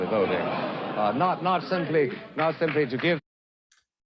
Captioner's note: crowd laughs